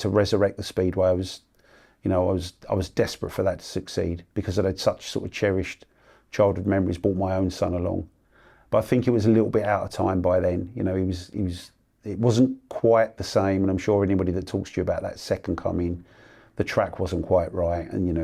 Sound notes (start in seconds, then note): none